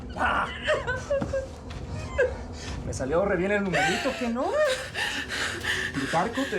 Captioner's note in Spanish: sollozos